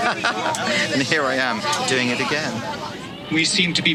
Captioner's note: laughing